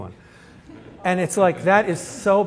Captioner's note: laughter